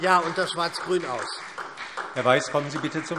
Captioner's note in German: Beifall SPD